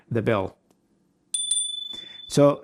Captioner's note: bell chiming